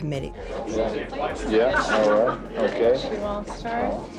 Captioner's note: people chattering